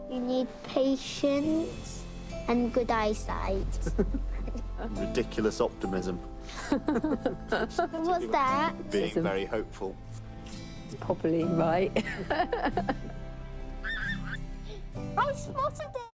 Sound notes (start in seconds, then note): 3.8 light laughter; 6.6 light laughter; 11.9 laughter; 13.8 bird calls